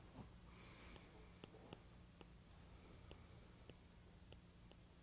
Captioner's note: stylus tapping